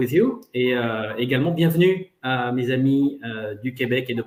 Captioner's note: foreign language